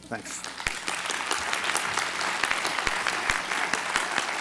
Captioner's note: applause